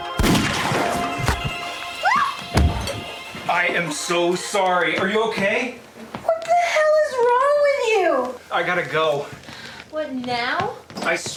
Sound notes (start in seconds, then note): 0.0 fan blades; 0.1 gunshot; 2.5 scream and thud